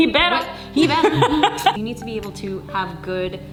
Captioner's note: laughing